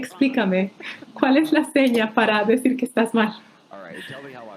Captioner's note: crowd laughing